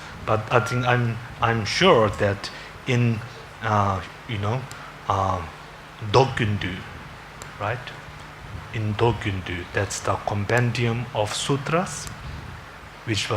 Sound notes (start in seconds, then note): 3.1 foreign language; 8.7 foreign language